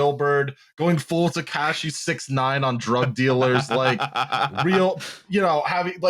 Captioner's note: laughs